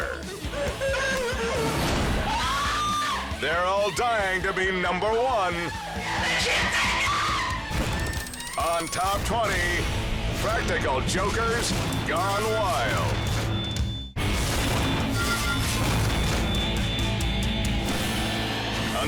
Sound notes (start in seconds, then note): 0.0 people laughing; 2.2 person screams; 6.0 person screaming; 14.5 intense music